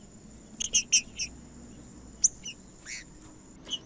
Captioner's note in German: trinca ferro cantando